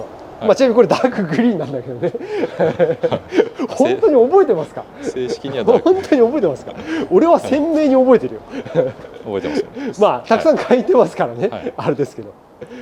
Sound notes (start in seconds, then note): 6.0 laughs